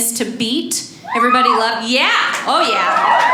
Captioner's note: audience cheers